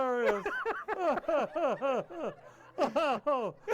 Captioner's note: all laughing